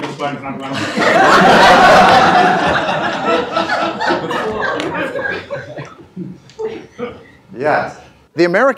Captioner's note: laughter